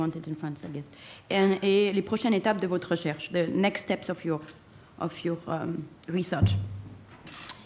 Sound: speaking french

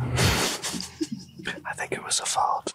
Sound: Alex laughing

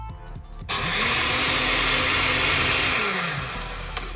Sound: blender sound

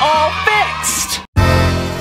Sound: cheering; upbeat music

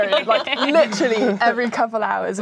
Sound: laughing

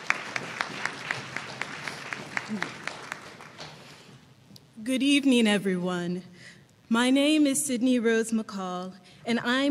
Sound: applause

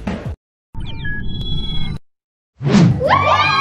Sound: air whooshing; signal beeping

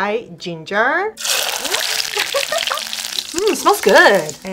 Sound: frying ginger

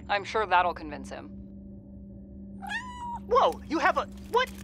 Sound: cat meowing

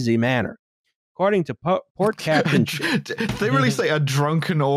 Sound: sputters

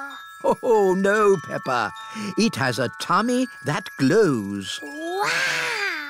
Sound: laughs

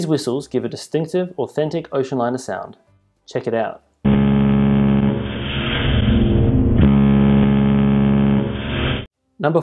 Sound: loud whistle followed by hiss from steam

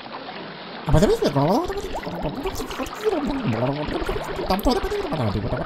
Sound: Goomba Gibberish

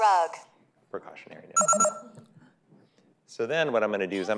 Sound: beeping

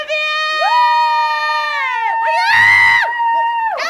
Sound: cheering

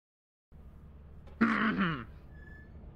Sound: clears throat

